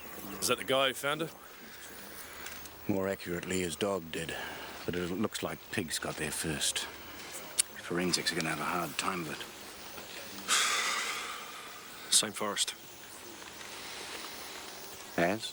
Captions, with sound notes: Is that the guy who found her? - More accurately, his dog did. But it looks like pigs got there first. Forensics are gonna have a hard time with it. (Dave sighs) - Same forest. - As?